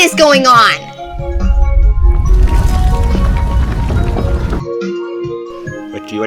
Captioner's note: rumbling